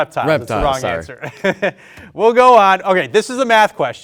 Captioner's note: laughs